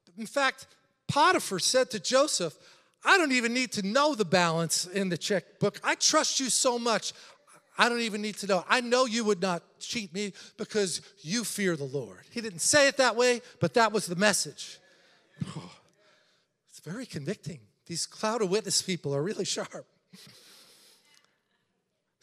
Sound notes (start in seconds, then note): 15.6 sighs